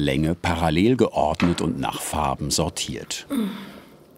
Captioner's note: she groans